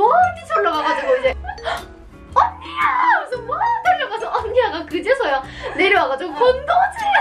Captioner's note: gasp